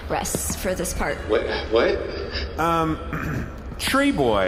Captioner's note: clears throat